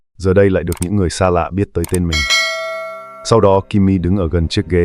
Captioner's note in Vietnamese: chuông